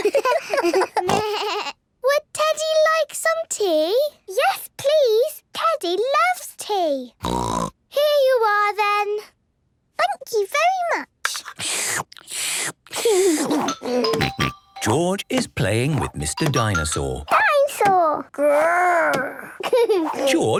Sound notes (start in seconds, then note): 0.0 giggles, snorts; 7.2 snort; 11.4 slurping; 13.0 giggles; 19.4 giggles